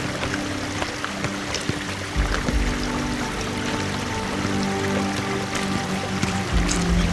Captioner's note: rushing water and music